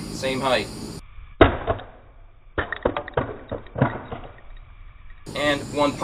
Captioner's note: slowed down thudding